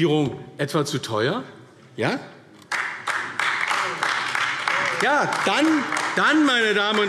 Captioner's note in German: Beifall AfD